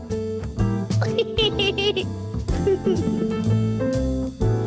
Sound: laughs

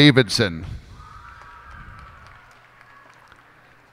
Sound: cheers and applause

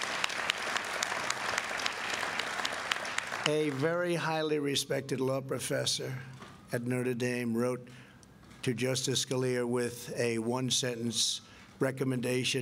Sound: applause

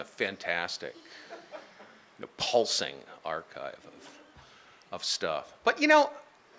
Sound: laughing

